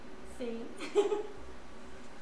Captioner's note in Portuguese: Risos